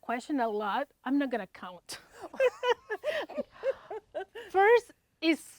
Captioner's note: both laughing